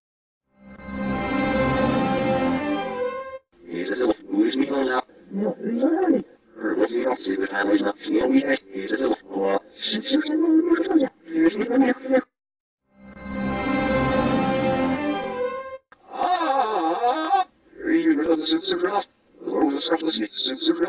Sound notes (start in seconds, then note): 0.7 orchestral music plays backwards; 3.5 PC voices speaking backwards; 13.2 orchestral music plays backwards; 16.0 PC voices talking backwards